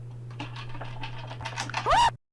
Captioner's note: rattle-rattle; girly squeak